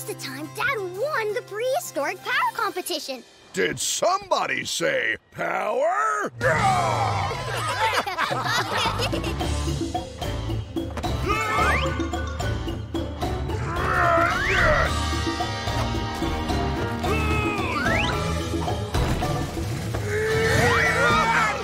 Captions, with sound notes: dad won the prehistoric power competition. Did somebody say power? [laughing] [grunting] [grunting] [grunting]